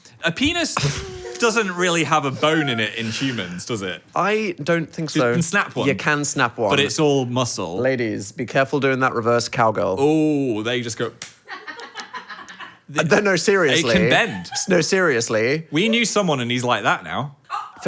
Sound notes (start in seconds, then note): 11.0 palms slapping; 11.6 staff laughing